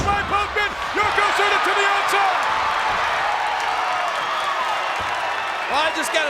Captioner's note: audience cheers